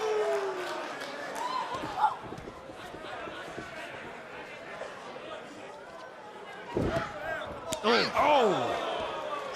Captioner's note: crowd cheering